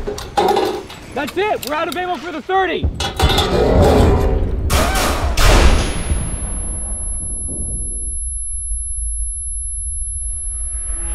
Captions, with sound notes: - That's it, we're out of ammo for the .30! (gunshots booming)